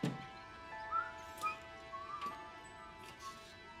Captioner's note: Tom whistling